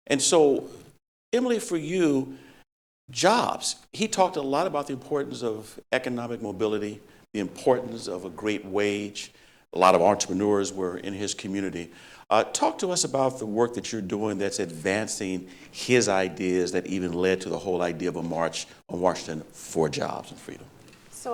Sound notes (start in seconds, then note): none